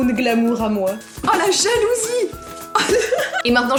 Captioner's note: laughs